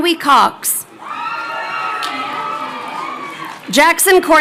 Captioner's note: crowd cheering